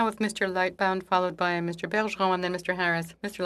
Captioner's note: speaking French